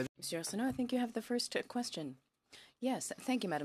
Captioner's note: speaking in french